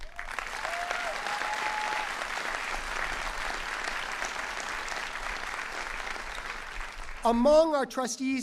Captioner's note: cheering and applause